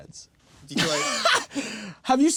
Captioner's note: laughing